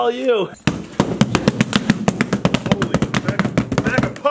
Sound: heavy thumping

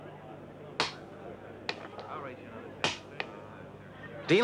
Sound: people chattering; clattering dice

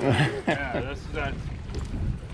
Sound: chuckling

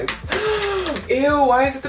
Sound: gasps

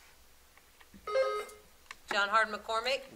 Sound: buzzer sounding

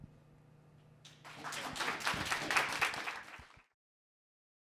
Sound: applause

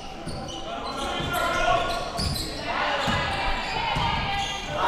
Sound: crowd cheering

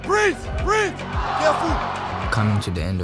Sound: crowd cheering

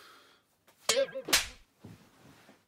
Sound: elastic snap sound

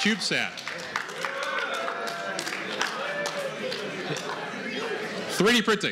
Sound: cheering

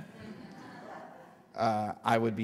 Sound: audience laughter

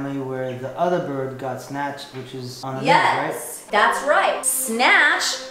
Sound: none

